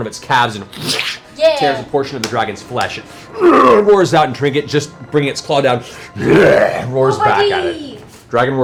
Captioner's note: snarls